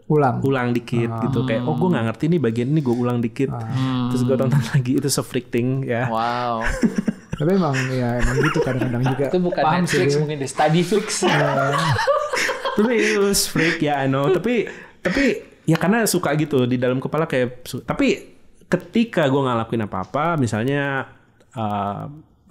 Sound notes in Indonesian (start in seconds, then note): 6.0 tertawa